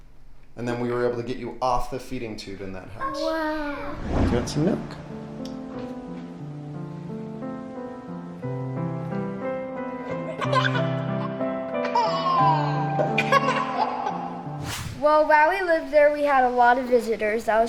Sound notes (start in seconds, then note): 3.2 wooshing; 5.2 gentle piano music; 10.2 laughing loudly